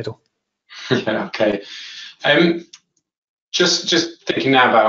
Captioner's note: chuckling